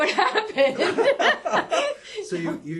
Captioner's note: laugh